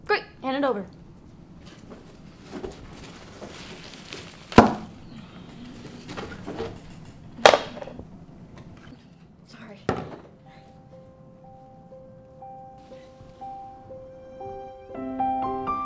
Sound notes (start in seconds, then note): 4.5 thunks; 6.0 clatters; 12.6 pensive piano music